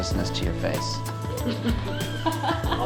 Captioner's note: laughing